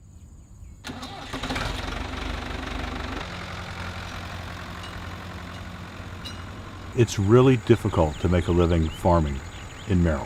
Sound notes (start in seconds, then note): 0.8 tractor engine rumbling